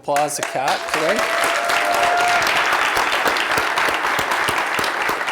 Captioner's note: applause